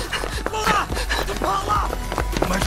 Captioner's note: Running